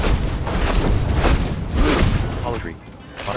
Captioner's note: strikes booming